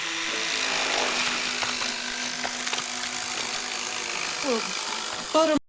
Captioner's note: flesh tearing